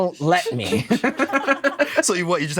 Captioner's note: both laugh